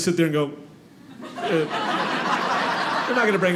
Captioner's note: audience laughing